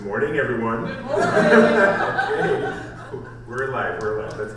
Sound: laughs

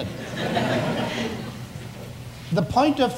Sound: audience laughs

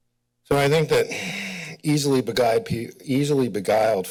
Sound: exhales

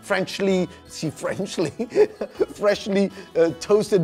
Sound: laughing

